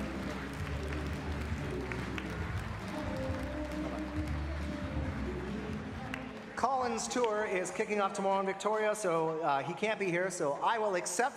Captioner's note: applause